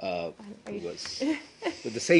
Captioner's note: laughter